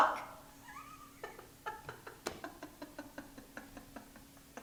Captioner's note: laughing